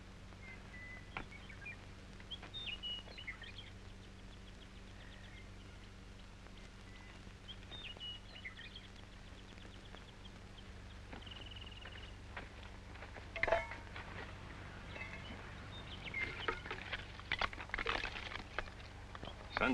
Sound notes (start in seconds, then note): 0.8 birds chirping